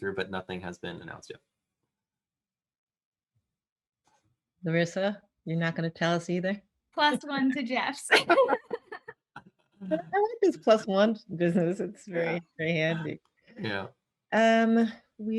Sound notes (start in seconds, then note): 8.1 laughs